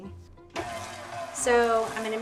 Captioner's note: mixer whirring